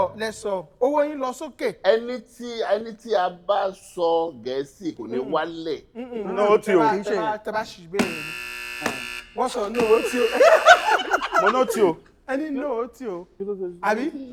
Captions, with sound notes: You said speaking English wouldn't count against us. No, that's not what I said. (Buzzer sounds.) (Everyone laughs.) He said "no," didn't he?